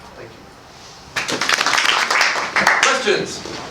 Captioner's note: applause